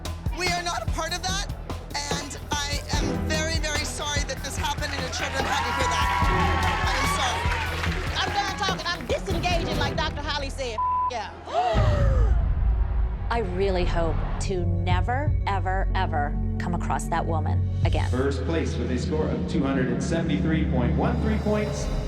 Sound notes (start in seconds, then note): 6.0 applause; 11.9 gasps